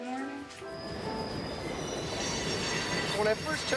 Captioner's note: train wheels screeching